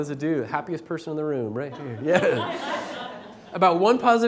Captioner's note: laughter